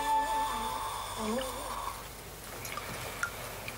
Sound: Gran wheezing

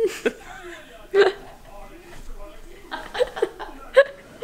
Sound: laughing

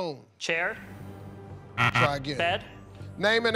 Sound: buzzer

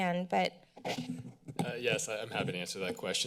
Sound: microphone noises

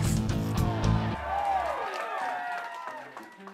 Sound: crowd cheering

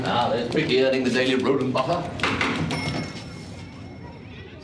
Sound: typing

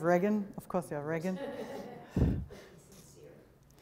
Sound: chuckles

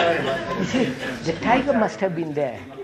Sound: laughter

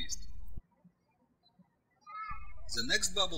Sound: birds chirping

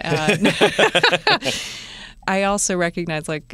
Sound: laughter

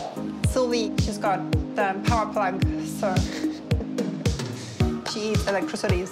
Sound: chuckles

